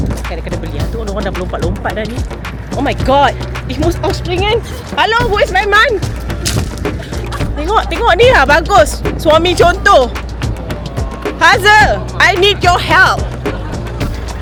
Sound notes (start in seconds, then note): 3.7 speaking German